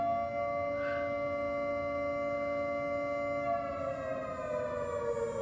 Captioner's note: alarms continue wailing